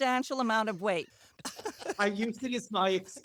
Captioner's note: laughter